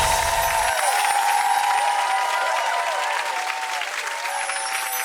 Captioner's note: screen transition chimes; audience cheers